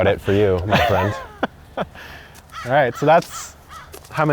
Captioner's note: laughs